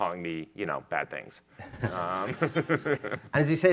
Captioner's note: chuckles